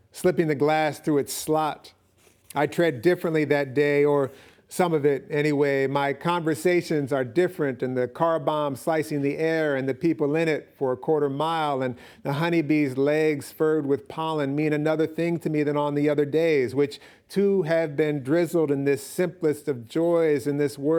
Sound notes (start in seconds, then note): none